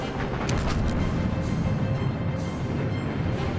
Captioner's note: explosions